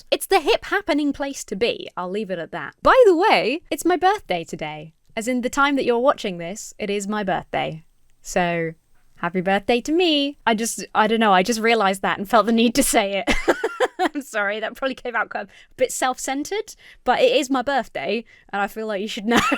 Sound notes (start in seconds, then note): 13.2 laughs